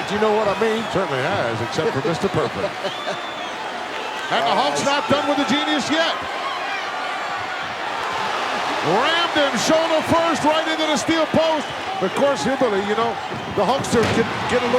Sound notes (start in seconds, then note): 2.8 hillbilly chuckling